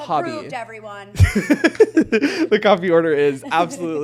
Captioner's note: chuckling